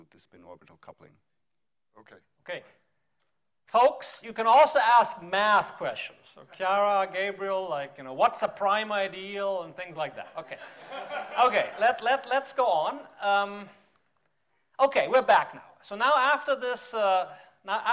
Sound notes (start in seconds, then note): 10.0 all laughing